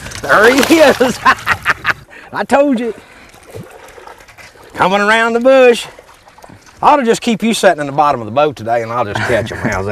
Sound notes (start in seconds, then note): 1.0 laughter; 2.8 splashing